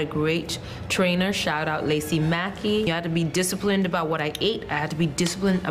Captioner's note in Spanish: habla en ingés